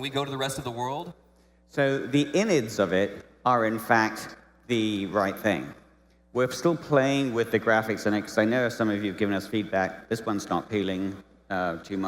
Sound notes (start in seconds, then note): none